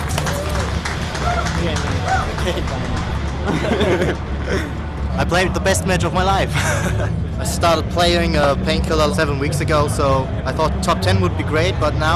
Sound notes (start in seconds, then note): 0.0 applause; 3.2 chuckling